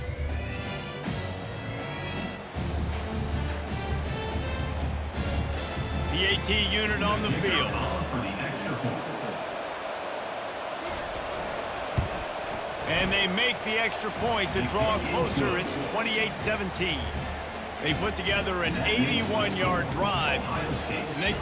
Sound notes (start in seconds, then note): 1.0 cheering